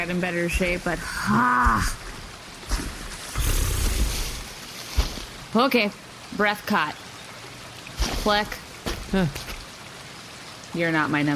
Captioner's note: breathes in